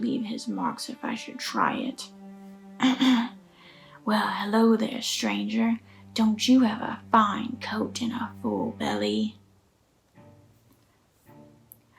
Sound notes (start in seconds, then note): 2.8 clears throat